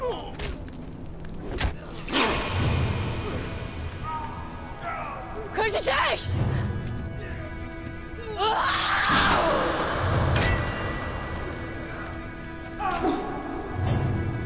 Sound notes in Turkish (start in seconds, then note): 8.2 Bağırma Sesi; 8.3 Kılıç Sesi